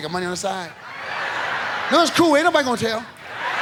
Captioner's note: audience laughs